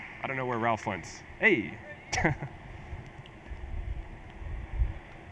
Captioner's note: chuckles